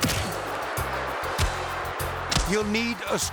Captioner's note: hits thudding